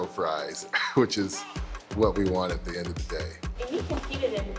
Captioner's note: laughs